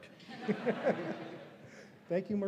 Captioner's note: all laughing